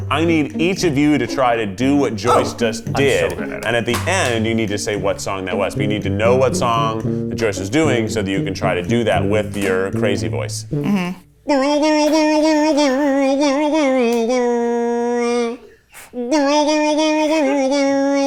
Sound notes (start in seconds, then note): 12.1 makes silly sounds